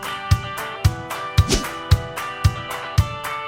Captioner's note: whoosh